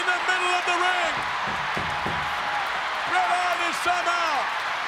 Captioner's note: hand tapping